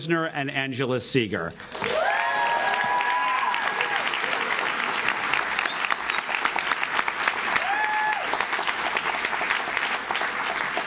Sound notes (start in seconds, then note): 1.6 audience claps; 1.7 audience cheers